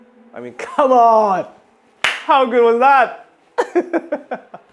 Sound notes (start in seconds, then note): 3.6 laughs